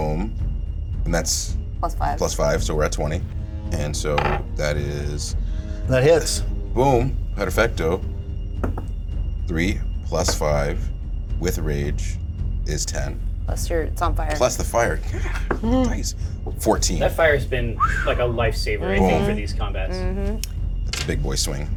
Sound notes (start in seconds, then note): 8.6 die thuds